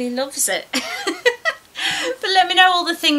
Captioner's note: laughs